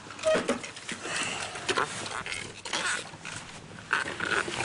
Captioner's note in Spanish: Ruidos de la silla al moverse